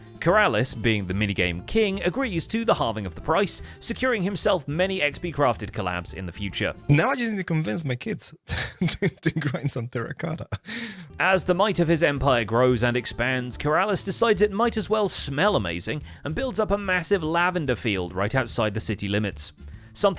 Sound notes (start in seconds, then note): 6.9 laughs